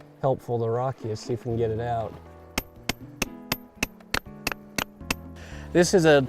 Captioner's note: hammering